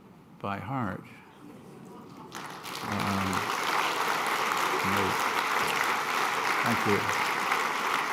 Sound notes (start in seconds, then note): 2.2 applause